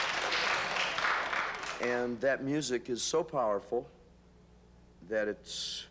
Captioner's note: applause